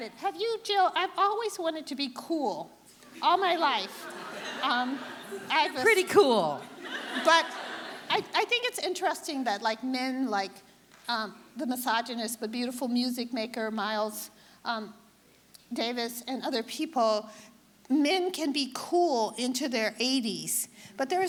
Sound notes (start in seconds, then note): 6.6 audience laughing